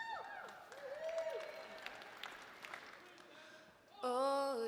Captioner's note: audience members cheering